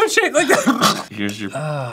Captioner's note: hacking